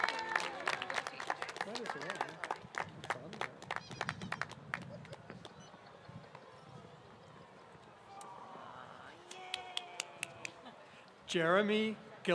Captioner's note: applause